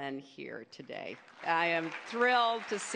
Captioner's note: applause